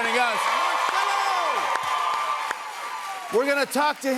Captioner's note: cheers and applause